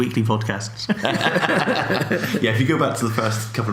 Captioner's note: laughing